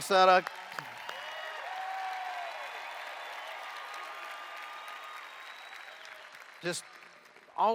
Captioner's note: cheers